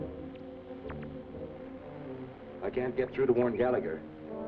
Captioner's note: static from machine